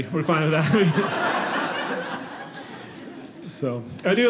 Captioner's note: audience laughing